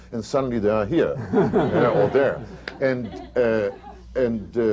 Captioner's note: laughter